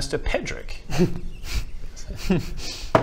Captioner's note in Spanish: se ríe entre dientes